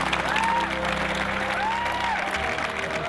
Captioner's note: crowd cheering